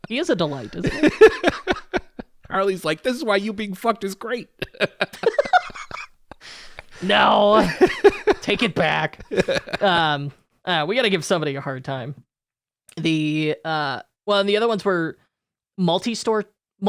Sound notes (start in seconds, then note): 0.4 laughs; 4.5 laugh